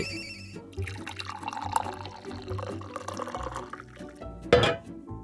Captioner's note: tea kettle whistle, turns off burner, pouring tea